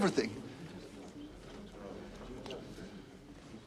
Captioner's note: Para penonton bergumam